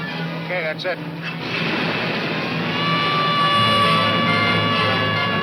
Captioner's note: siren wailing